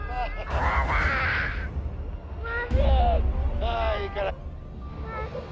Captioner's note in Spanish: Risas de Nelson